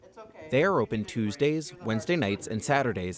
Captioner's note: voice-over